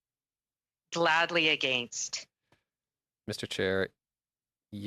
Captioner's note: speaking French